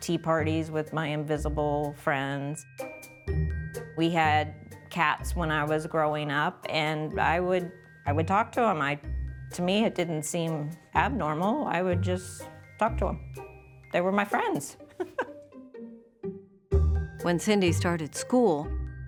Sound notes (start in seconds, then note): 15.0 laughs